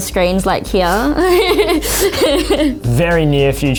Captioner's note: laughs